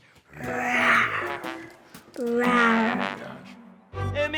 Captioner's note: tiger noise